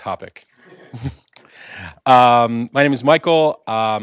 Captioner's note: laugh